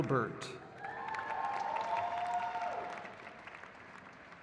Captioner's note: crowd cheers